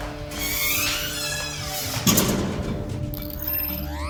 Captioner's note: stall creaking; tense music continues